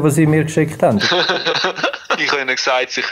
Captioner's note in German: lacht